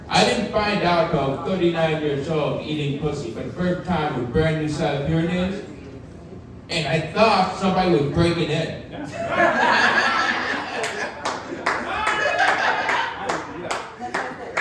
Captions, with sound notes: I didn't find out 'til I was 39 years old eating pussy for the first time with a brand-new set of hearing aids, and I thought somebody was breaking in. (audience laughing) (audience member clapping)